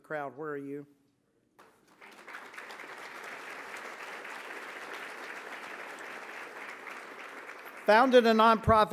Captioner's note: applause